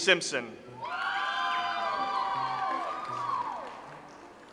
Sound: audience applauds

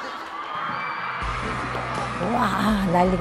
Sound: cheering

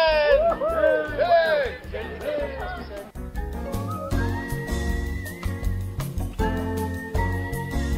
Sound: crowd cheers

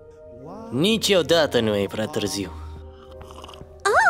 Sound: non-english speech

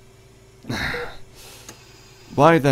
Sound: mechanical ambiance; sighing; mechanical ambiance

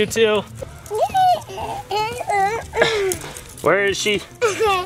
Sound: groans

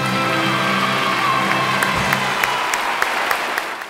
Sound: crowd applauds

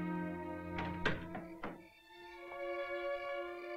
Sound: door softly clattering; ominous music

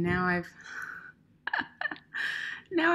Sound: laughs

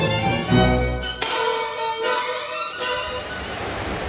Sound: discordant music; classical music; string snaps; waves burbling

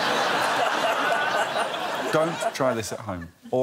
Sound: laughter

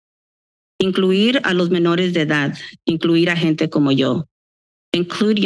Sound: foreign language

